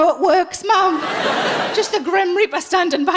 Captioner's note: laughing